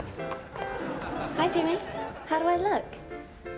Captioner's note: audience laughing